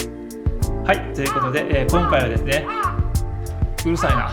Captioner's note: a crow's cry